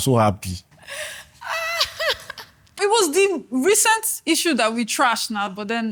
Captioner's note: laughs